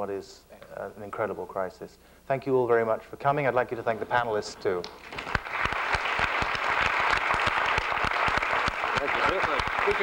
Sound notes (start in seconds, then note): 4.9 applause